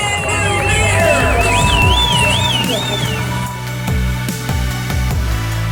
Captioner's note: cheering; upbeat music